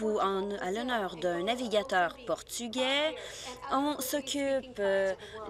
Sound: speaking Alternate Language

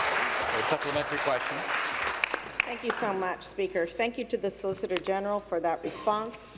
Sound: applause

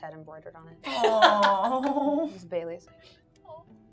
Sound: gamer laughing

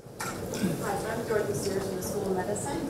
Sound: voiceover

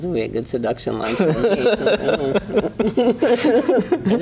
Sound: laughing

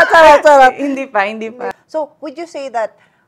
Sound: laughs; laughs

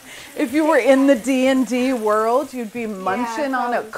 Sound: laughs

